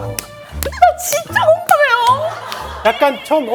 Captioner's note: approving seal-clap